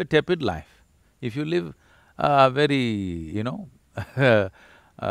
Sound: laughs

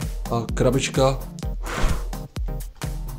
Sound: wind blow

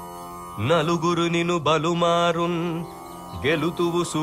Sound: reciting a poem

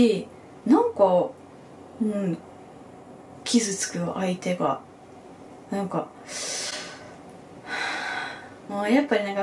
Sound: sigh

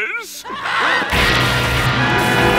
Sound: screaming

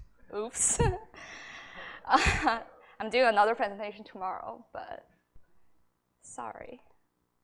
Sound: laughs

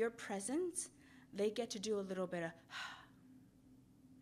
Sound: exhaling

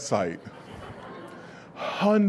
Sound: audience laughs

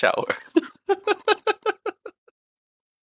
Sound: laughing

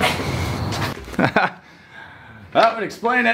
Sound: laughs

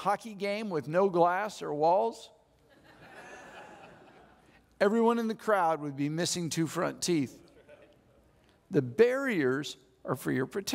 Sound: audience laughs

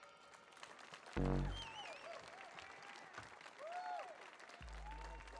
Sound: audience cheering

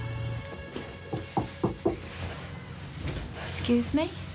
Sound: knocking

